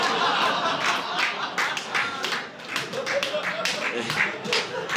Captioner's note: audience laughing